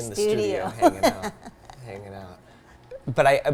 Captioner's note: laughs